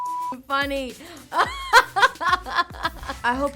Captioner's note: laughs